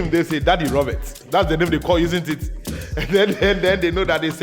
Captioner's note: laughs